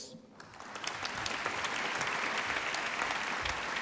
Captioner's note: applause